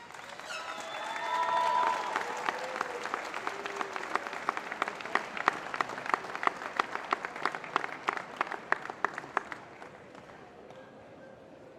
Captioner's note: applause